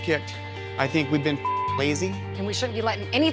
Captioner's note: beep